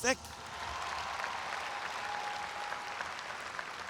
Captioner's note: audience applauds